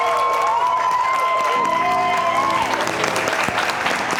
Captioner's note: cheering